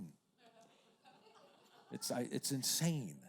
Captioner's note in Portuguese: risos da plateia